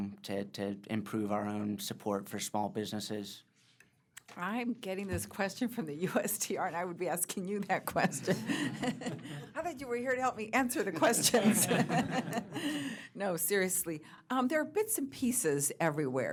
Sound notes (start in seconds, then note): 7.8 laughs; 10.8 laughter